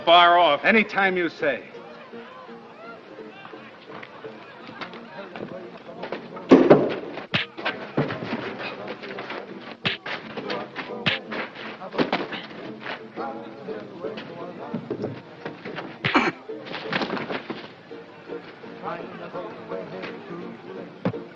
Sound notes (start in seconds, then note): 15.5 grunts